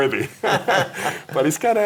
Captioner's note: laughing